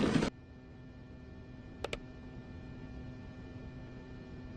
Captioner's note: mouse clicking